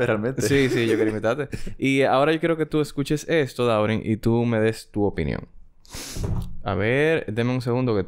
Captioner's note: laughs